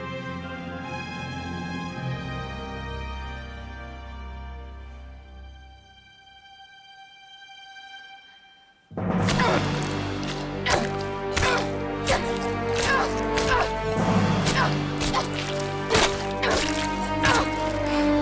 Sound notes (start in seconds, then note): 13.7 grunts